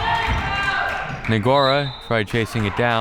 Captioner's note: whistle